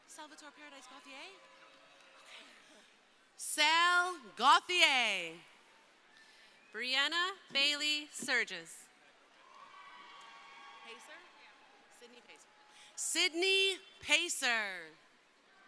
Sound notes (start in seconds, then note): 9.0 crowd cheering